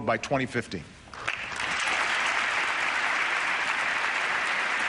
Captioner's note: applause